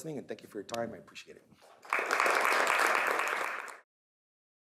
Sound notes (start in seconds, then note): 1.8 applause